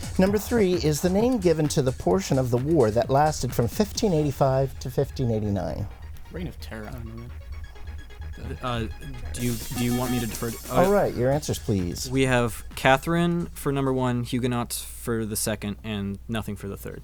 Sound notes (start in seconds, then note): 6.3 wispering; 10.0 bell